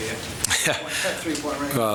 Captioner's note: laughter